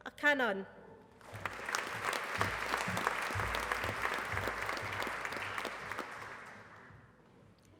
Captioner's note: applause